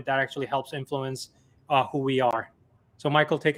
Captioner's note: none